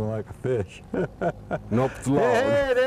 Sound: laughter

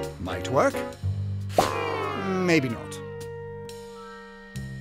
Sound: pop

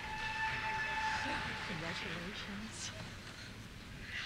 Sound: cheers; voiceover

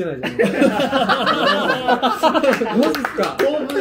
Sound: laughing

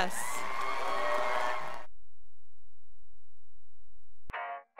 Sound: graduates cheering

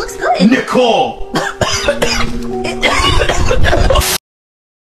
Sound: coughing

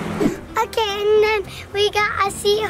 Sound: air whooshing

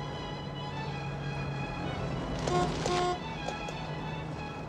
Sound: honk honk

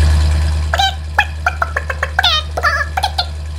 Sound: bird chirping

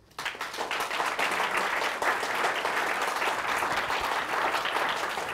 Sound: audience applauds

